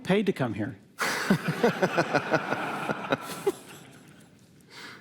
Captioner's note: laughter